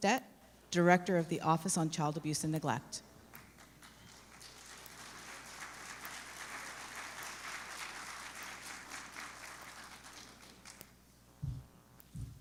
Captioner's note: applause